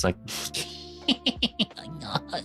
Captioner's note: laughing